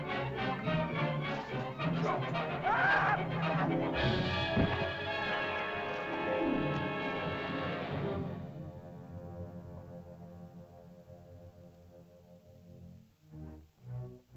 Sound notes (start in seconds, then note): 1.9 caveman screams; 2.6 suspenseful music; 4.0 body thumps; 4.5 suspenseful music; 13.1 dramatic music